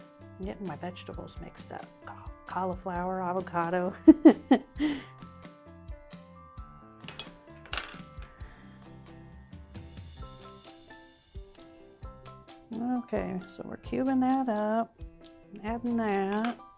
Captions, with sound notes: I'm getting my vegetables mixed up. Cauliflower, avocado. (laughs) (bright music continues) Okay, so we're cubing that up. I'm adding that.